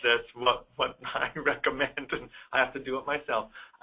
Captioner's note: laughs